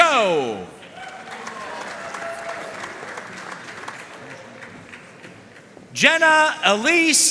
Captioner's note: audience cheering and applauding